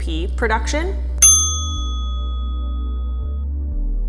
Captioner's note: bell dings